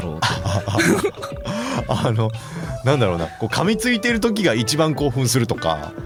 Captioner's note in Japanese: 笑い